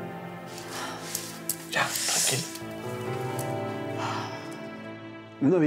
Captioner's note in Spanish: exhala